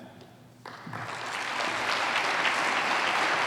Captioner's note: applause